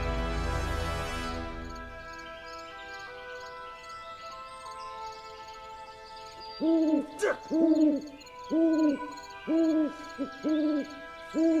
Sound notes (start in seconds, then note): 6.1 doctor winces; 6.6 owl hooting